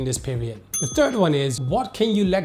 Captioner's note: bell dings